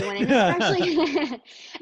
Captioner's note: laughing